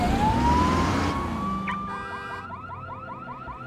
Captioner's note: car alarm beeping